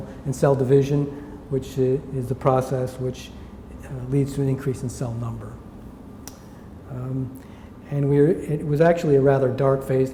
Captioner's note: smacks lips